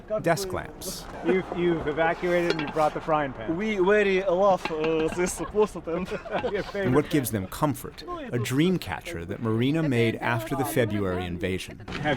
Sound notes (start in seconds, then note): 5.0 laughter